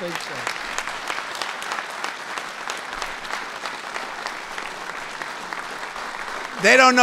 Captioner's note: applause